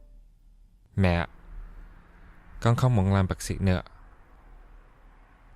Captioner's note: speaks in Vietnamese